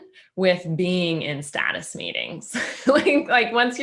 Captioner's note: laughing